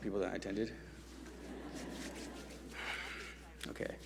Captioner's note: audience chuckle